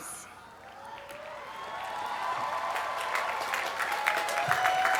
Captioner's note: applause